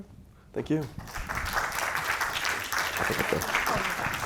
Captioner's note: audience clapping